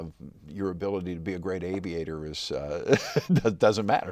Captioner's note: laughs